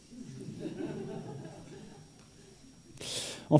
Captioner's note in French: Rires